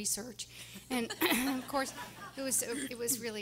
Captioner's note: everyone laughing